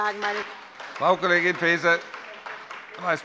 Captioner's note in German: Beifall bei der SPD